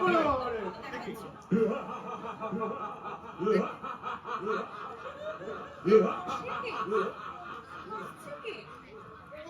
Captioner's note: Ghost of Raghu da laughs in the background